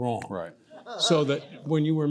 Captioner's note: audience member laughs